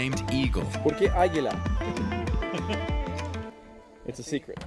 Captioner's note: speaking Spanish